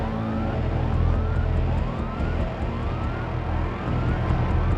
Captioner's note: alarms blaring